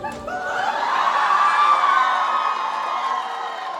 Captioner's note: crowd screams for kermit